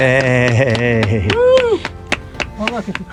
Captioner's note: applause